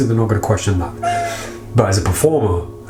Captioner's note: cat meows